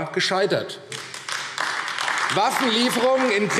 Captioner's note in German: Beifall AfD